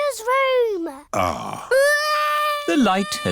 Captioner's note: crying